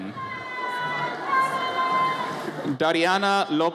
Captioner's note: audience cheers